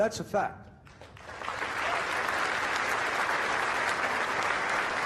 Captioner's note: crowd applauding